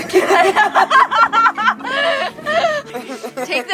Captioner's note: both laughing